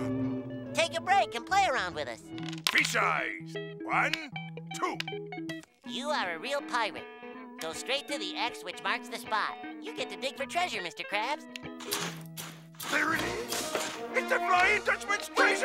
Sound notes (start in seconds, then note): none